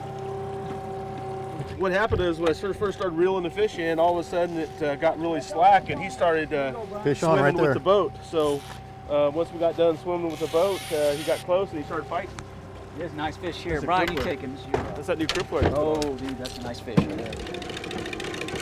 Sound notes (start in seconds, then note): 3.0 trolling motor humming